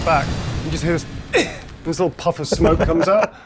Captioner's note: coughs